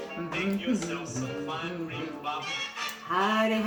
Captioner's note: humming; singing